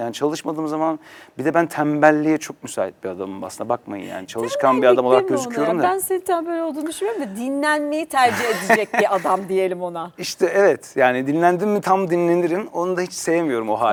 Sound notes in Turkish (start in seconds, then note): 8.2 kahkaha